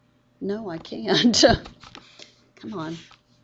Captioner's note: laughing